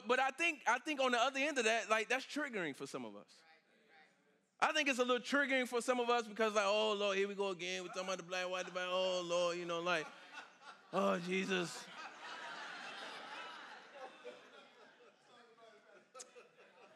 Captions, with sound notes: but I think on the other end of that, like that's triggering for some of us. I think it's a little triggering for some of us because like, oh Lord, here we go again. We're talking about the Black, white. Oh Lord, you know, like, oh, Jesus. (congregation laughing)